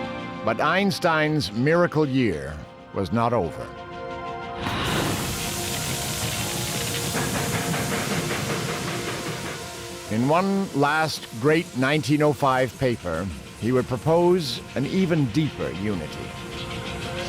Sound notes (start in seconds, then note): 4.7 <i> steam hissing, fire roaring